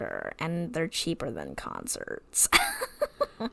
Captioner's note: laughs